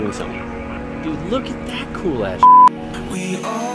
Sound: beep

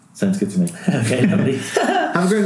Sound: laughing

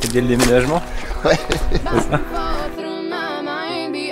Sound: laughes

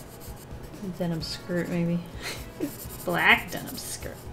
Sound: chuckles

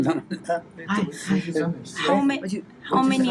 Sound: foreign language

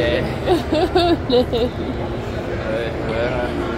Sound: laughing

